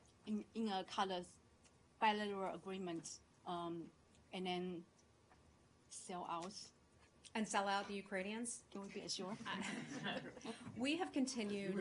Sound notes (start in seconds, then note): 9.4 laughter